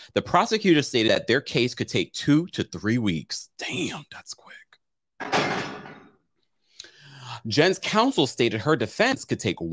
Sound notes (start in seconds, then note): 5.2 clattering